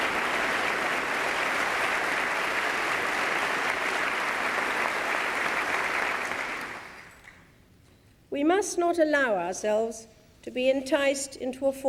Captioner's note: applause